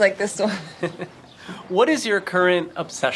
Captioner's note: laughing